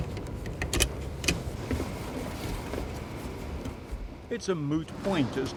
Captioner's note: clicking